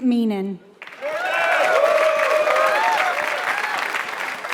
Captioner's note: applause